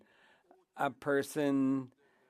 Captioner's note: speaking French